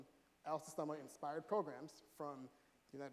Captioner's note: none